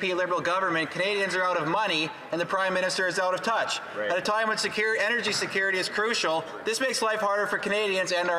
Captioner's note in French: voix de l'interprète